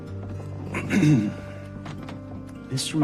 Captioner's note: clears throat